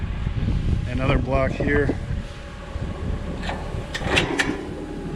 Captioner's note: Discbine clanks